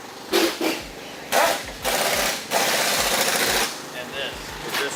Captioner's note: loud machinery